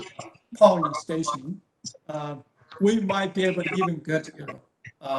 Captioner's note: interference